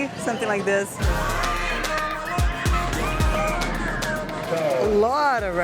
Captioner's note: people screaming